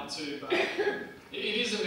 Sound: audience member coughing

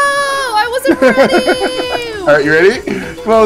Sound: laughs

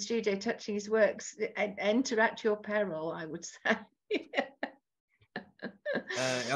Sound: laughs

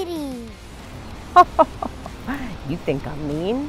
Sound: chuckles

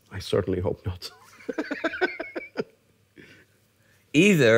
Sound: laughter

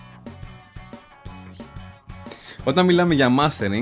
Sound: sigh

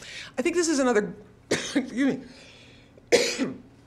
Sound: coughing

